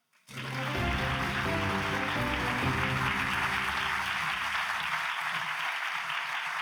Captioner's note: audience applauds; grand music